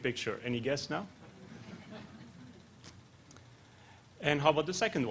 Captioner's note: laughter